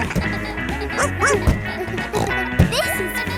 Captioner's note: barks; snorts